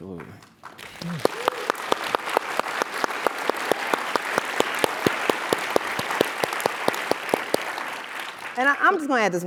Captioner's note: applause